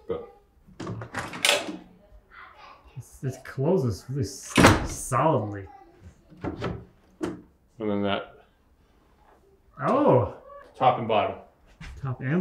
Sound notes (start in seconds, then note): 0.8 latch clicking; 1.9 children murmuring; 4.5 door slamming